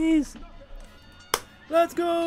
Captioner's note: clap